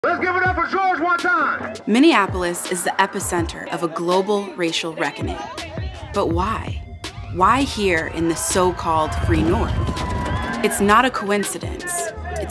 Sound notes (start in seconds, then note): 9.6 crowd cheers; 9.6 statue thuds